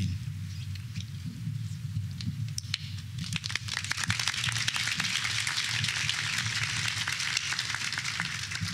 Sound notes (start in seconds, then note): 3.2 applause